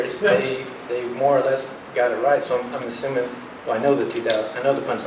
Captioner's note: none